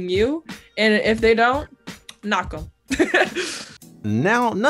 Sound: laughs

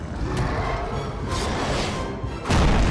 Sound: roars; banging and roaring

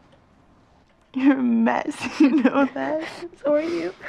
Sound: laughing

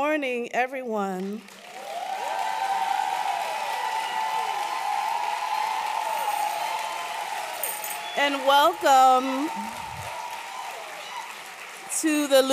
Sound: applause

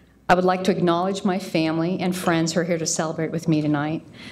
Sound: none

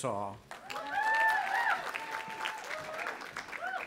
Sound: cheering

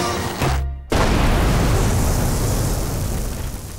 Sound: loud exploding

